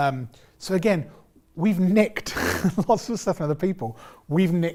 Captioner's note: laughs